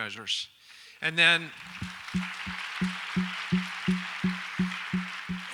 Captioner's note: audience applauds